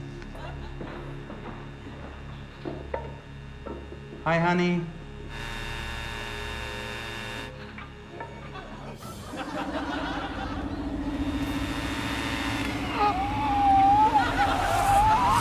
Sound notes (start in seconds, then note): 0.1 ominous music continues; 5.4 leaf blower whines; 9.1 laughter; 12.7 gasps; 12.7 leaf blower stops